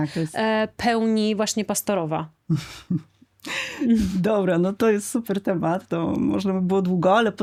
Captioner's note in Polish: śmiech